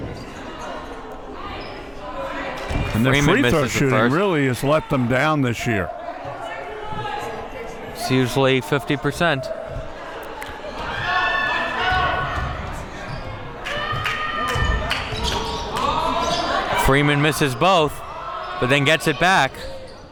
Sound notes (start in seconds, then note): 2.3 audience clapping; 11.0 woman screams